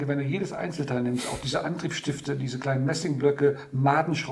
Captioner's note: none